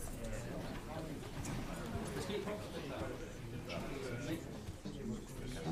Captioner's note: people chattering